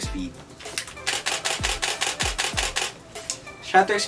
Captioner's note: happy shutter sound